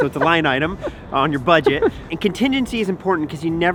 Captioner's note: laughs